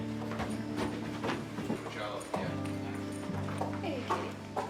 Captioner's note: footsteps